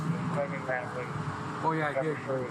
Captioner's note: radio chatter